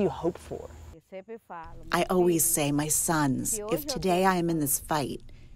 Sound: through translator

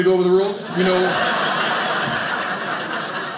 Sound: audience laughing

